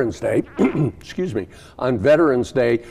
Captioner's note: coughs